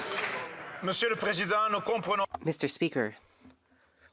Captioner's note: some Applause